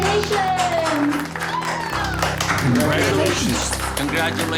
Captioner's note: cheering